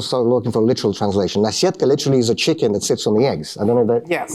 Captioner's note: speaking russian